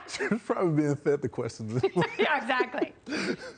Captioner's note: laughter